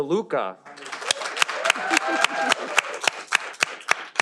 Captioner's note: audience applauding